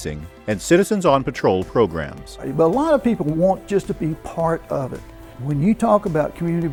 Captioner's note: rushing